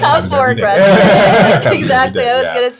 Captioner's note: all laughing